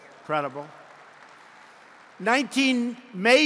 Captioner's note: applause